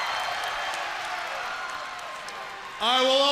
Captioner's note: crowd cheering